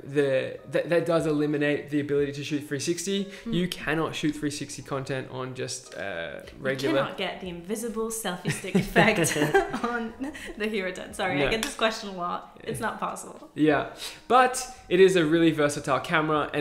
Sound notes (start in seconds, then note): 8.5 both laughing